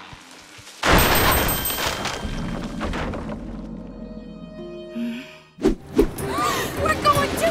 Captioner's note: crashing; bell ringing